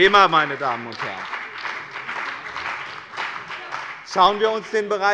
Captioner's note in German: Beifall bei dem BÜNDNIS 90/DIE GRÜNEN und der CDU